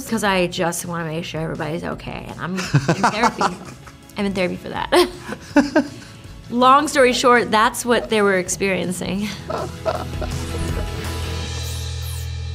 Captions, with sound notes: because I just want to make sure everybody's OK. And I'm in therapy. I'm in therapy for that. [LAUGHTER] Long story short, that's what they were experiencing. [UPBEAT MUSIC]